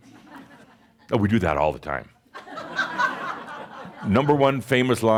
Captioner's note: some chuckles